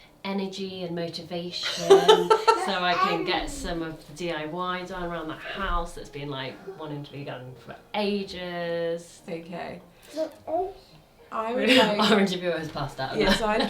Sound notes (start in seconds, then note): 1.6 laughs